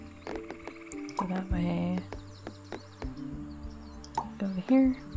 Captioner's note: bird sounds